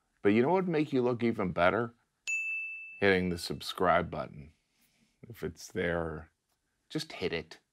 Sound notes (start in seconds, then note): 2.2 bell dinging